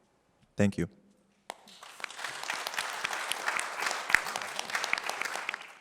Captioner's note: applause